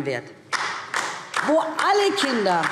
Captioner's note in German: Beifall DIE LINKE